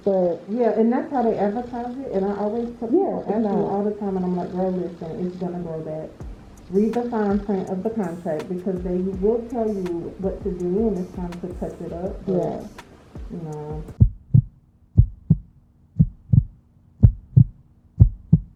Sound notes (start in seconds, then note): 14.9 heartbeat sound effect